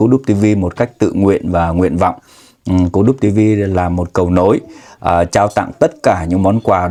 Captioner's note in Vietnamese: khịt mũi